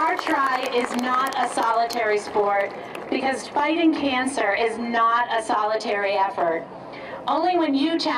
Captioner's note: applause